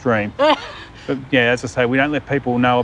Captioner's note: laughs